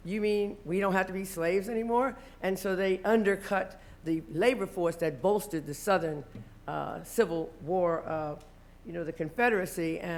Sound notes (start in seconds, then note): none